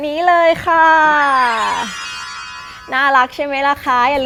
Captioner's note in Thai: เสียงเอฟเฟกต์